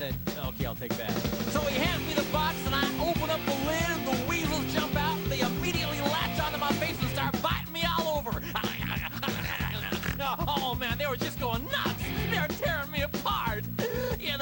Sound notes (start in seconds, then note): 9.2 weasel fighting sounds